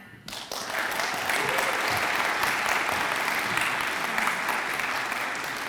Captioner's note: audience applauds and cheers